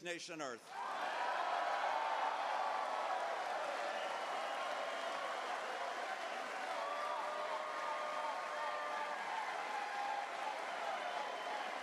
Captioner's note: cheers